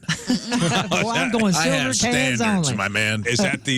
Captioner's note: laughing